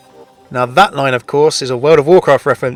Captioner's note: voiceover